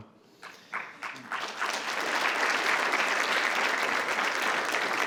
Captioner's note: attendees applauding